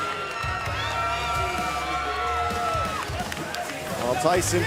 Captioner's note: cheers & applause